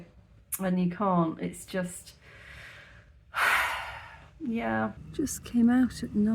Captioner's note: deep sigh